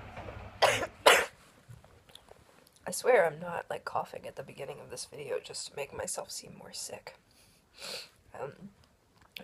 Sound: coughing

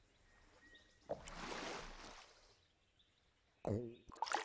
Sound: water splashing

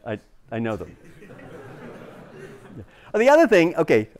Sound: laughter

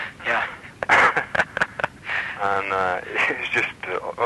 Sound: chuckles

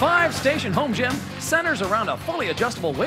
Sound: cheers and applause

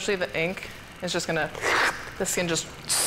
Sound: makes explosion sound

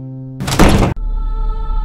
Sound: door closes

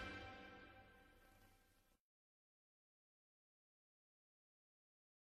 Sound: silence

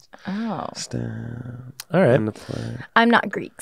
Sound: faintly speaking

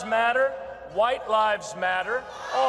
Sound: boos

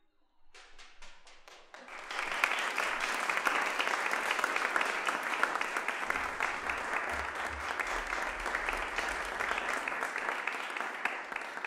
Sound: applause

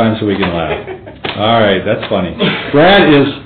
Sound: laughing

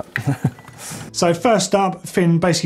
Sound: laughs

